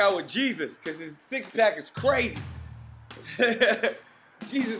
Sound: laughs

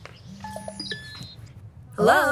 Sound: phones jingle

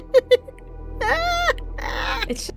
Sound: witchy laugh

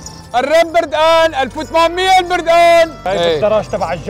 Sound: shouting

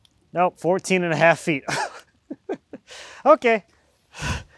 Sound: laughs

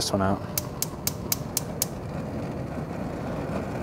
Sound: stove clicking

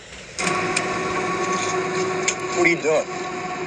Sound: 777 roars distinctly

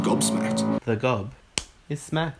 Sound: smacking sound

